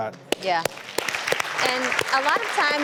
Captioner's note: audience clapping